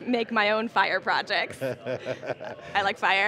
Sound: laughing

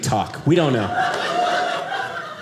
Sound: audience laughing

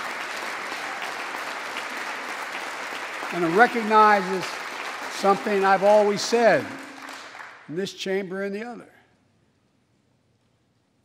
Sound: applause

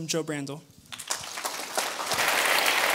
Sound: applause

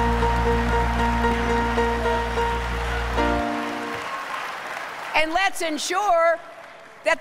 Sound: applause

